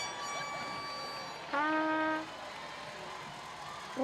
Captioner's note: cheers and applause